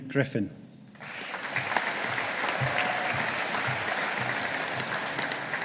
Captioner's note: audience applauding